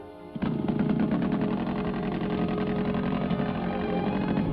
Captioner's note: engine rumbling